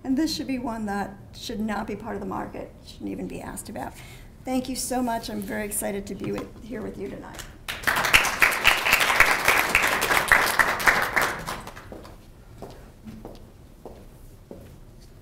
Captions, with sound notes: And this should be one that should not be part of the market, shouldn't even be asked about. Thank you so much. I'm very excited to be here with you tonight. >> [APPLAUSE]